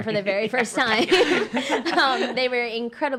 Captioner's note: laughing